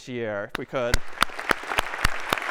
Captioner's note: applause